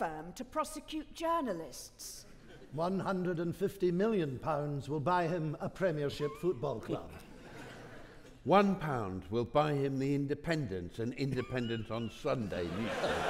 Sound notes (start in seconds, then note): 7.2 audience laughing